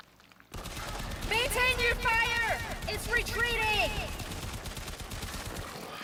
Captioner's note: gunfire